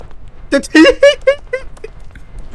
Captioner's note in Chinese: 苦笑